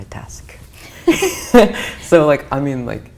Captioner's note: both laugh